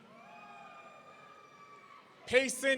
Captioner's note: audience cheering